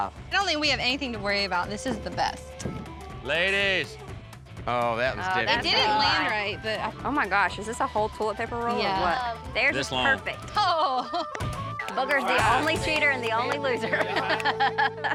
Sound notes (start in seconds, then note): 3.3 thud; 14.5 laughs